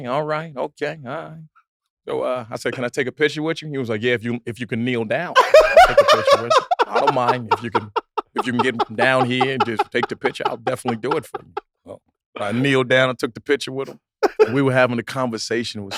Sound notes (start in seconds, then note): 5.3 group laughs; 11.6 laughing